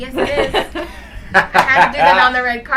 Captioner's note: laughs